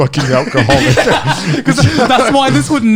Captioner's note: all laughing